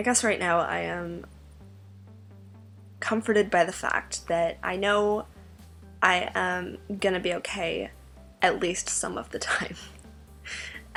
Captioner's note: laughs